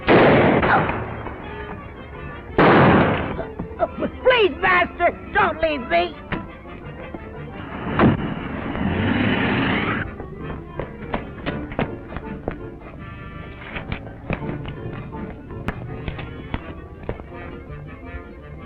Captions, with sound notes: (gun fires) (groans) (gun fires) - Please, master, don't leave me. (engine rumbling)